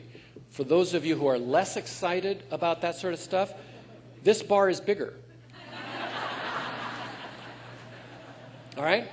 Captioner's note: laughter